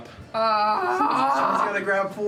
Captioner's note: moans